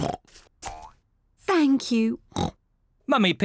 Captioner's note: oinks; oinks